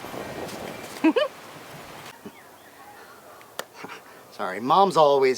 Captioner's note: giggles